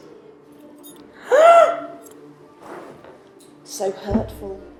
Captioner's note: gasps